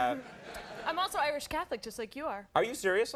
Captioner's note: crowd laughs